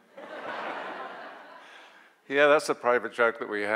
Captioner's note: audience laughs